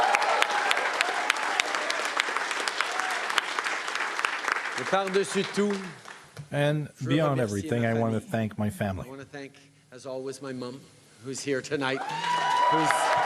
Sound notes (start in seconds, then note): 1.1 speaking French; 2.0 cheering and Applause